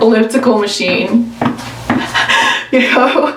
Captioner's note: laughs